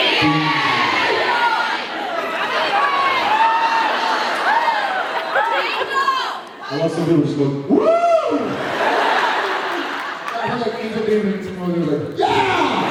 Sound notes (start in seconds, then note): 1.2 hubbub; 8.6 laughs